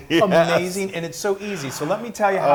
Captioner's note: laugh